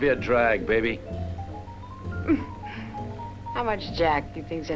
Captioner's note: laughs